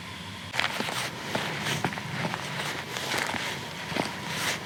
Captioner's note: crickets chirping; footsteps rustling